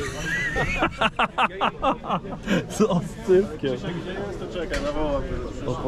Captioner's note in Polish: śmiech